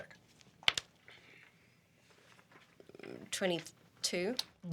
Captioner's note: rolls dice